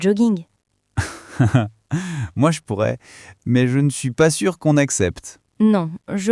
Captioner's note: laughs